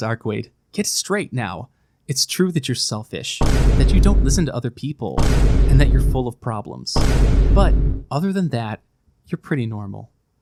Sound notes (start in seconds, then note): 3.4 projecting vine boom